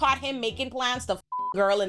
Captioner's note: beep